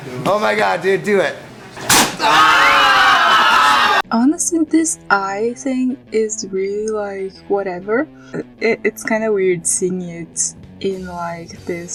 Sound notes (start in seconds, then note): 1.8 spit